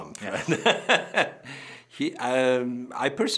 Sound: laughing

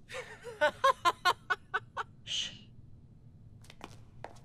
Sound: Robbie laughs

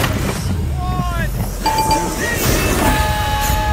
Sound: ding-ding-ding

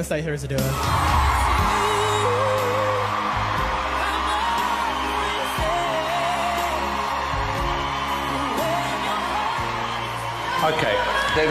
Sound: crowd cheering

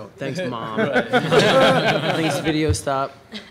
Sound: laughter

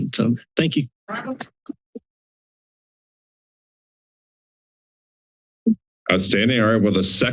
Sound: silence

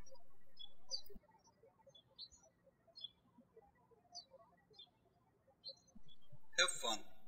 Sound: birds chirping

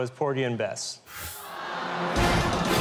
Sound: audience groans

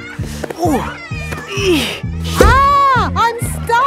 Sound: grunting

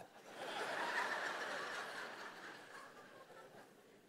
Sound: congregation laughing

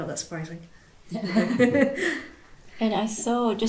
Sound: all laugh

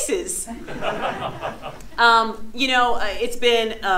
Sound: audience laughs

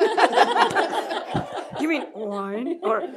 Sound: laughter

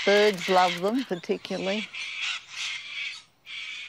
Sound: birds screech

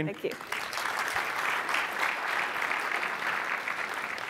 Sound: applause

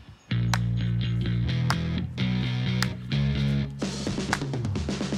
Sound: Robbie clapping

